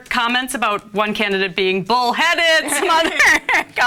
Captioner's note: laughs